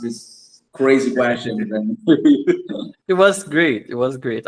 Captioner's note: laughs